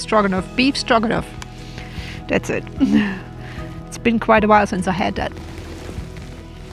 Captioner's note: laughs